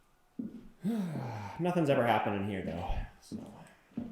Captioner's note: sighs